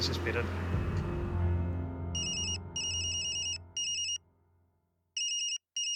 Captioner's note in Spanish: Suena el celular